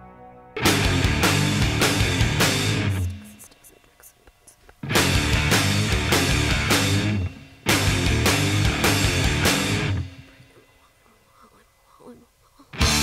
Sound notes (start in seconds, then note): 3.0 woman whisper-repeating; 10.4 woman whisper-repeating; 12.8 exciting rock music